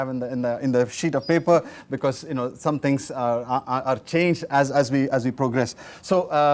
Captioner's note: feedback